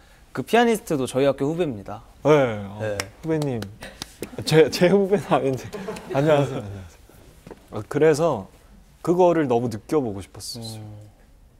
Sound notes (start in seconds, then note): 2.9 clapx3